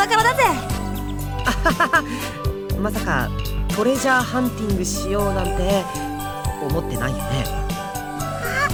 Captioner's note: slightly awkward laugh